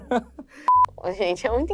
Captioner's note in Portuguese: som de bipe